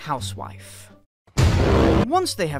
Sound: inception horn

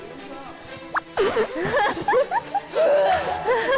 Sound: sounds like a fart

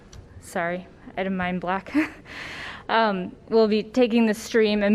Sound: laughter

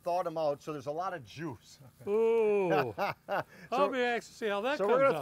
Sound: laughing

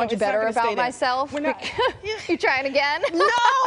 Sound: laughter

